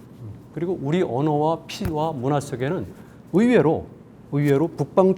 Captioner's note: speaking in Korean